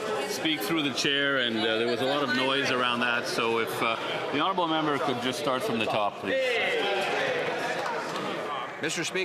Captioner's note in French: voix de l'interprète